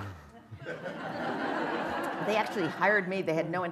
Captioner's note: laughter